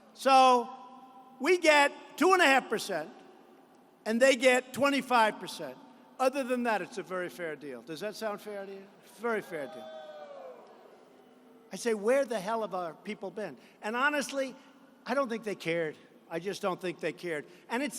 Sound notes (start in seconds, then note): 9.7 booing